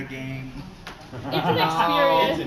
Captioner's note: laughter